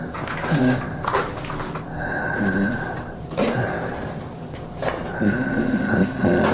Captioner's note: Miles breathes heavily and groans